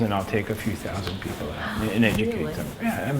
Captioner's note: gasps